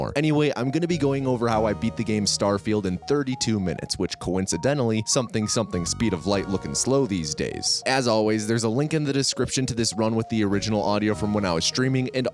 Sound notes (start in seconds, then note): none